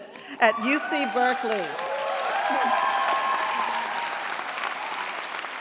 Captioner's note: cheers, applause